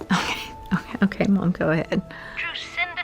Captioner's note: chuckles